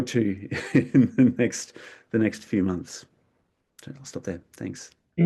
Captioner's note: laughs